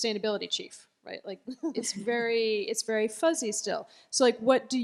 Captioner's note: laughter